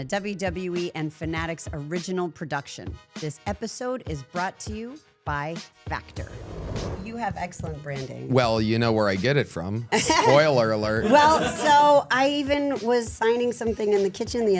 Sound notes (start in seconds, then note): 11.0 laughing